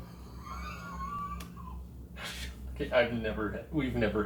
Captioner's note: investigators chuckle